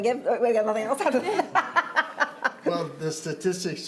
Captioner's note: laughter